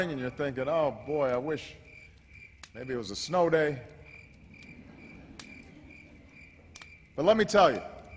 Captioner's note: laughter